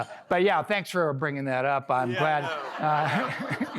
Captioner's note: laughter